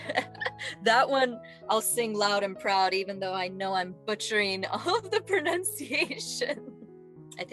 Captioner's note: laughing; laughing